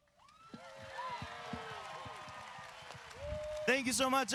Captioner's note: audience cheers